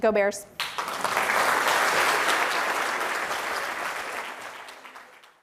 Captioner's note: applause